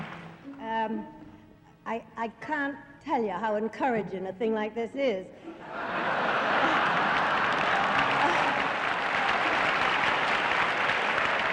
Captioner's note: crowd laughter and applause